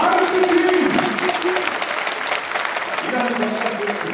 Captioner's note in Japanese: 拍手